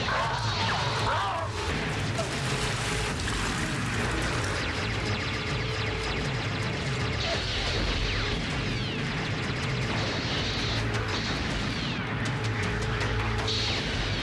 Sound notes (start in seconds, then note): 0.2 growls; 4.4 pulse rif shooting